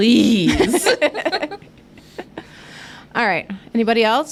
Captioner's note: all giggling